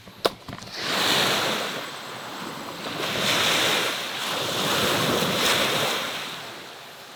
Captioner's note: waves calmly washing up beach